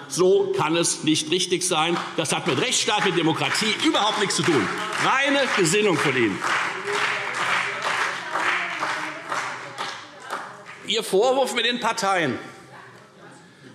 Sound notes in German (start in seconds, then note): 6.7 Beifall Freie Demokraten, CDU und BÜNDNIS 90/DIE GRÜNEN